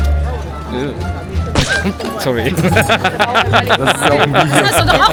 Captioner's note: laugh